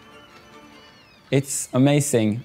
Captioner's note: gulls cawing